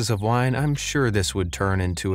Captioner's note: birds tweet